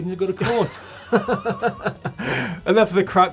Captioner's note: laughter